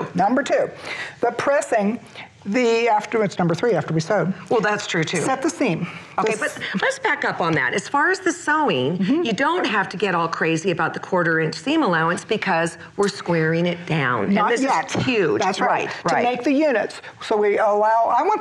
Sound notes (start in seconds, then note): none